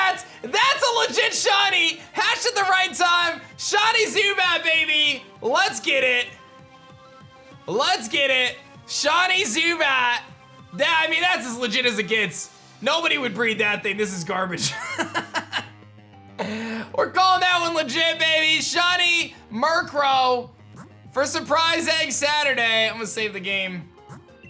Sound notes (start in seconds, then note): 14.7 laughs